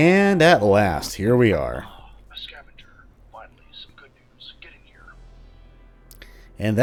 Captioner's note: intercom voice